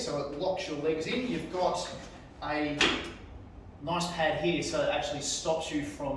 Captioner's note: pad banging